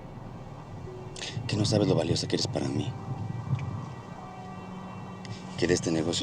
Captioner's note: speaking spanish